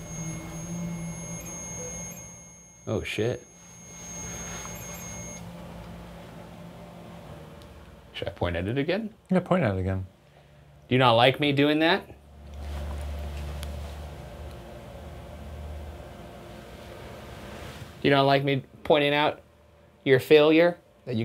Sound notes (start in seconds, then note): 0.2 gentle eerie music; 4.1 device beeping